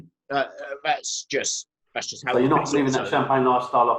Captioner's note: murmurs